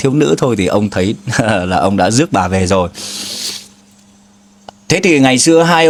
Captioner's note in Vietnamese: khịt mũi